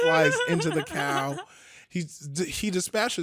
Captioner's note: laughing